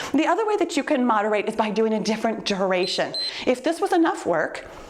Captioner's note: timer beeps